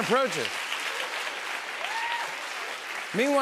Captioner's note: laughter and applause